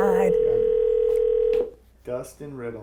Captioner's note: phone ringing